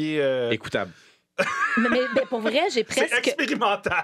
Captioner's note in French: rires